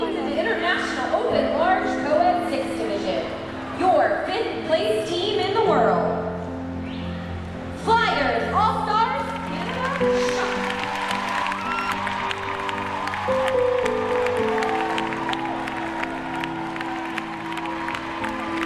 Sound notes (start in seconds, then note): 9.2 audience clapping and cheering; 15.0 gentle somber music